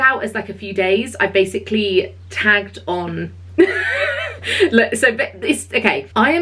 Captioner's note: laughing